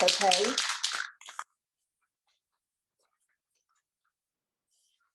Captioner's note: spray can shaking sound